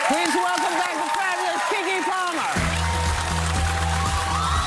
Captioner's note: applause